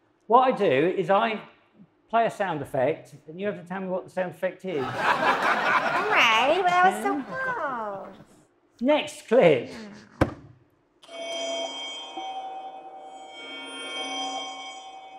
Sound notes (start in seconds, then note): 4.8 audience laughs; 11.1 whimsical chimes